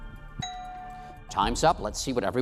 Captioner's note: bell dings